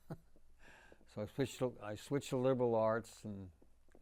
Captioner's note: laughing